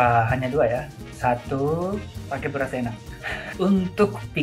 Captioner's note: laughs